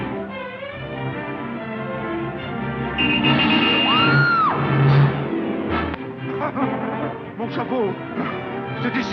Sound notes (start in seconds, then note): 2.9 car horn honks; 3.8 woman screams